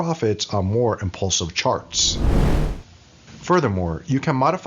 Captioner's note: whooshing